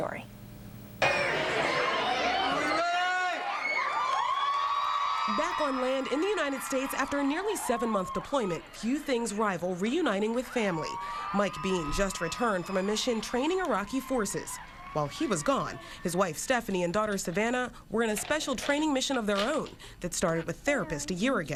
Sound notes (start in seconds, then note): 6.0 cheering